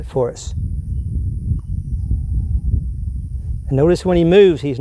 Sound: wind

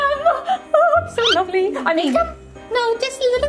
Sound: audio whistles

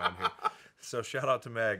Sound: Dan laughing

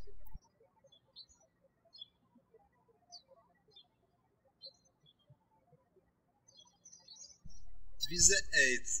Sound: birds chirping

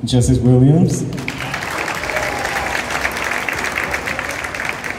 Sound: cheers and Applause

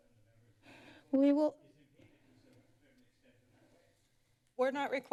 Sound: background conversations

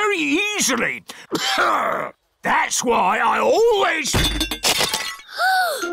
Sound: clears throat; peppa gasps

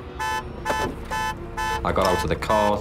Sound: car horn beeping

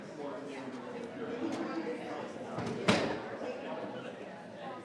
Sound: people chattering

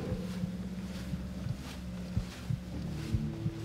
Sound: eerie heartbeat

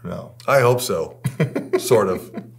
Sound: laughing

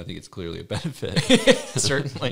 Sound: laughs

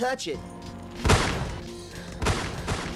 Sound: gunshot

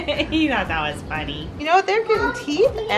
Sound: laughs

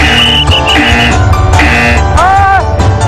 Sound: buzzer; speaking indonesian

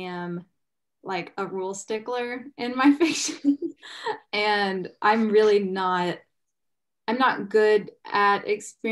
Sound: laughs

